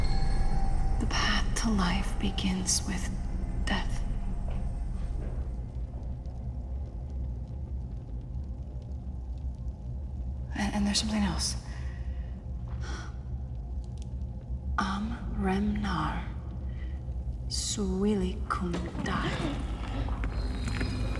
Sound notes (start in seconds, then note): 13.8 speaking in foreign language